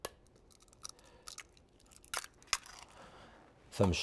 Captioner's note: egg cracking